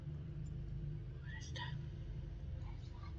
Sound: whispers

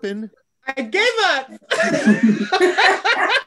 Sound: everyone laughs

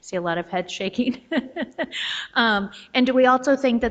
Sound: laughs

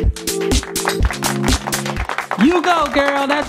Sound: applause

